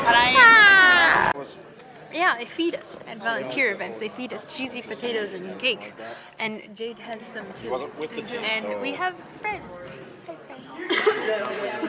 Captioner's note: giggles